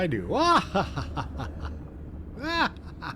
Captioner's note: laughter